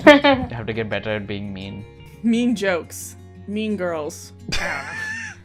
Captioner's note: laughter; laughter